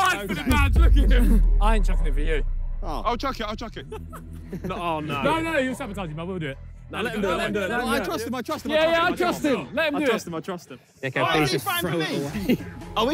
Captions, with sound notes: - He dived for the badge, look at him. - I ain't chucking it for you. - Oh. - I'll chuck it, I'll chuck it. [players laugh] - Oh no. - No, no, you'll sabotage it, I'll do it. - No, let him him do it, let him do it. - I trust him, I trust him, I trust him. - Yeah, I trust him. Let him do it. - I trust him, I trust him. - Okay, please just throw it away.